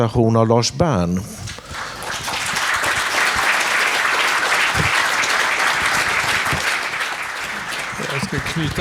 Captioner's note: applause